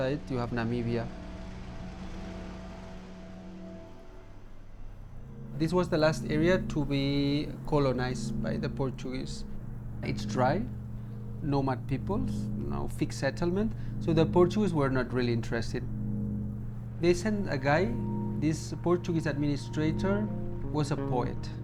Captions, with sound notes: you have Namibia. [CAR ENGINE RUNNING] This was the last area to be colonized by the Portuguese. It's dry, Nomad peoples, no fixed settlement. So the Portuguese were not really interested. They sent a guy, this Portuguese administrator, was a poet.